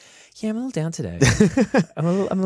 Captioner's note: laughter